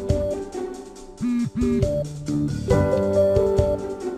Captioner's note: ring! ring!